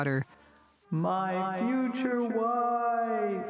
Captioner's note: echoes